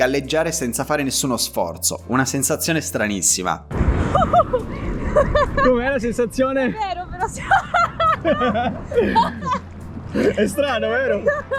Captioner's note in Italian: Risate